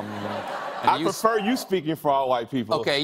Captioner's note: laughter